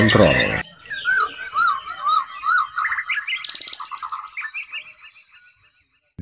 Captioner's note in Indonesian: Kicau Burung Murai